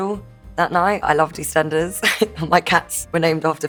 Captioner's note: laughs